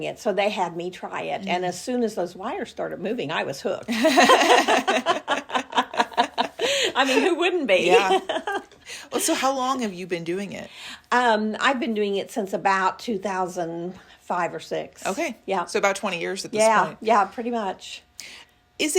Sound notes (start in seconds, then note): 3.9 laugh